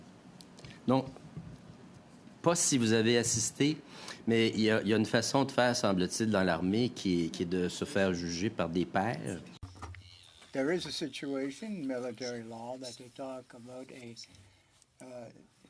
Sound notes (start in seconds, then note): 1.3 speaking French